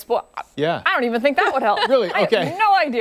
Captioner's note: laughter